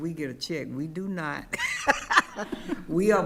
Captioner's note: laughing